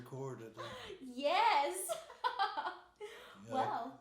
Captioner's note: laughing